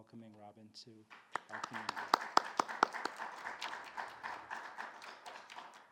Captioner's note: audience applauding